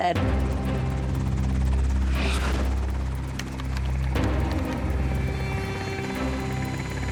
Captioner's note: dramatic music; helicopter blades thudding